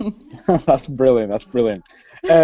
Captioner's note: laughs